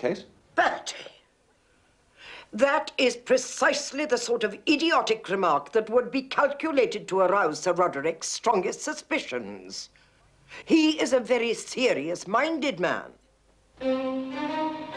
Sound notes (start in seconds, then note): none